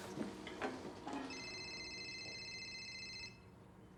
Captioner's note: telephone ringing